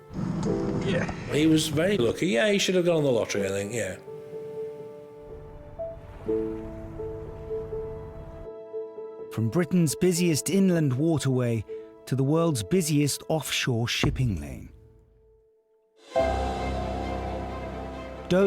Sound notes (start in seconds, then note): 0.2 lifeboat engine whirring; 4.3 uplifting instrumental music; 6.2 water splashing; 16.0 intense instrumental music